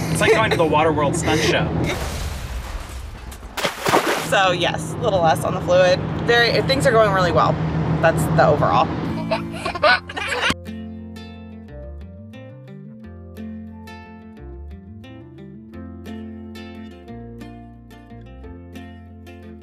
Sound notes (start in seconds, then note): 9.2 giggles; 10.7 gentle music